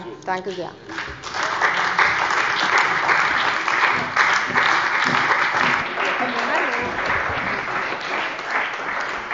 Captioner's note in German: Beifall bei der CDU und dem BÜNDNIS 90/DIE GRÜNEN